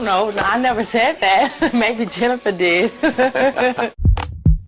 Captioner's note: laughing